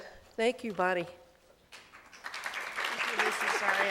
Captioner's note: applause